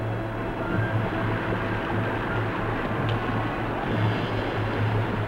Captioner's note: water babbling